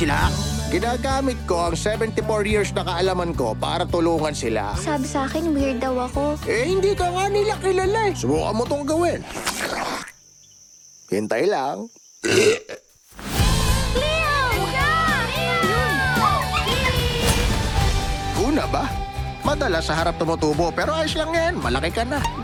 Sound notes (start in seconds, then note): 9.1 slurps; 12.2 burps; 14.6 kids clamoring